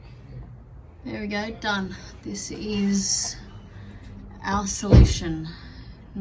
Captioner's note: car door slams